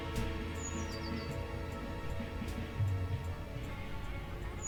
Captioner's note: birds chirping